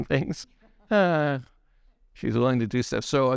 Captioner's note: laughs